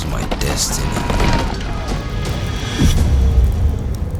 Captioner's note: battle sounds